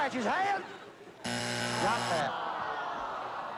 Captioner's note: buzzer